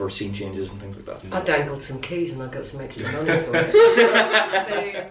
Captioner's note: laughter